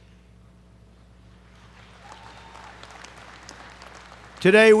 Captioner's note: applause